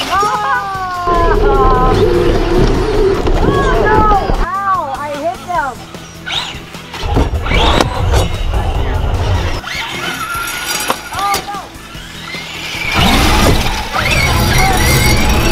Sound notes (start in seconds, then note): 0.3 groans; 6.1 cars whirring